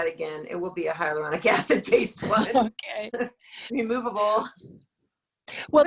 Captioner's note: laughs